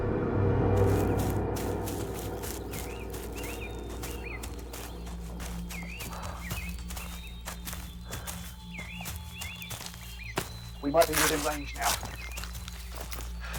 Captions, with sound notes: (leaves crunching) (birds chirping) - We might be within range now.